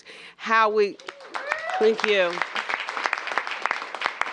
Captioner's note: cheers and applause